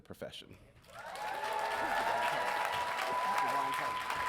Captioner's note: audience cheering